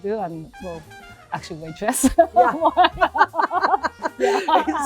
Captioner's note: laughing